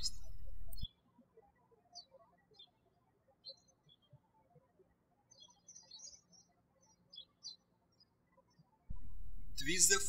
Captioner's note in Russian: птички щебечут